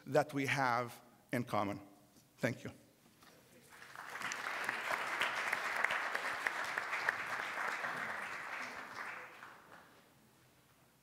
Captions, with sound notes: that we have in common. Thank you. (applause)